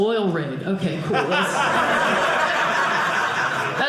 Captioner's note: audience laughing